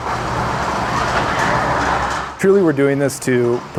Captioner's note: door opens